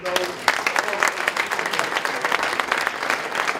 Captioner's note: applause